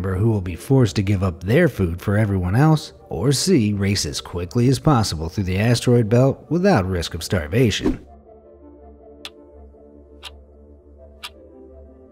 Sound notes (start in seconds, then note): 7.8 air whooshing; 9.3 clock ticking